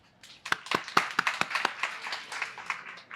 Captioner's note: applause